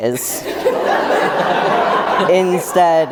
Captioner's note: group laughter